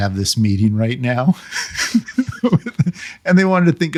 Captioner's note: laughing